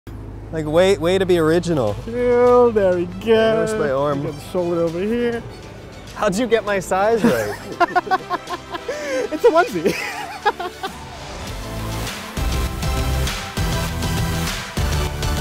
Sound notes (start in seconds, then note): 7.2 laughing; 11.8 intense, upbeat music